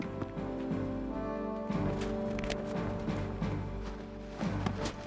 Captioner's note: gunshots firing